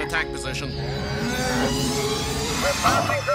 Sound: ships humming; oink

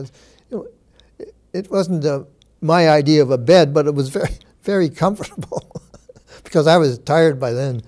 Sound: chuckles

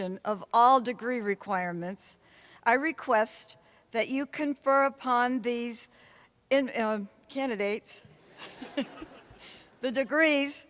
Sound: laughter

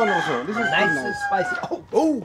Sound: coughs

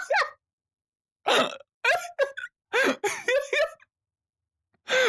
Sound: laughter

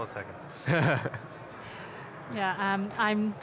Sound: laughs

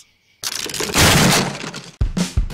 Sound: crashing

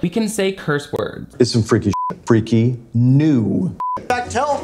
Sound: beep

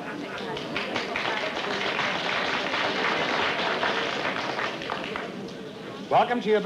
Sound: applause

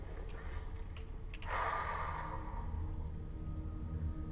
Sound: exhales

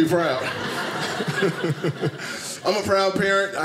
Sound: audience laughing

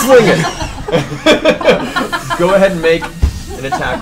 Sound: all laugh

